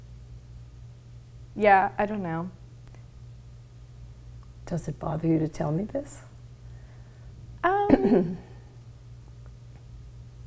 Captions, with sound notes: Yeah, I don't know. - Does it bother you to tell me this? (clears throat)